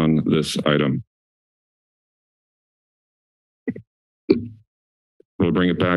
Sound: silence

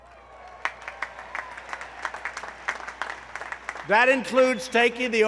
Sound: applause

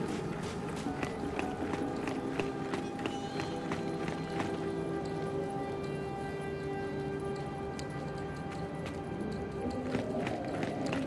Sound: footsteps

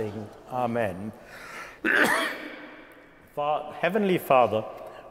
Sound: coughing

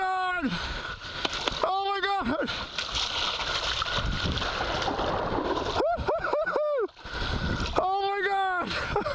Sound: laughter

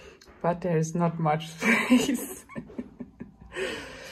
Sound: laughs

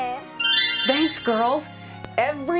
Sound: magical tinkling

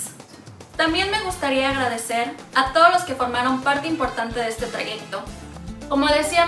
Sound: speaks in foreign language

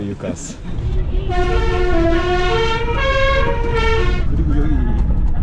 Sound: exciting horn sound

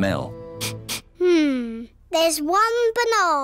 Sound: sniffs

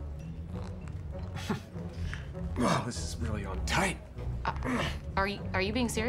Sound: laughs

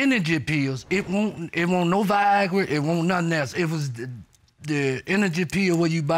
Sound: stammers

